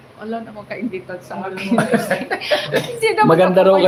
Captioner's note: laughter